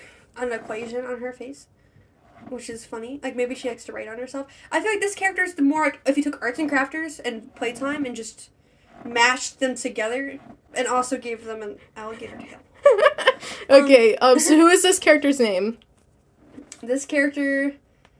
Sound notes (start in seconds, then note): 12.8 laughs